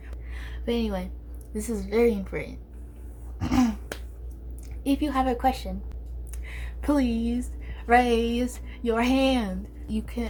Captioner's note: clears throat